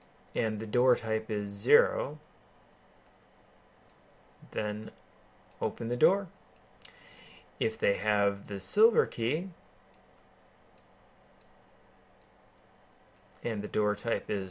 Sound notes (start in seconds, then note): 9.9 keyboarding